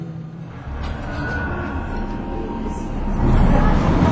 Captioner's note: woosh